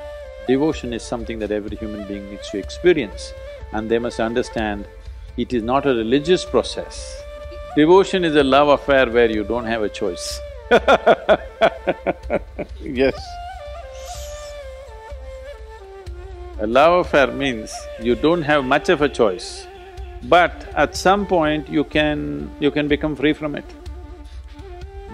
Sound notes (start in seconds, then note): 10.7 laughs